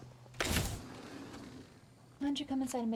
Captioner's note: door sliding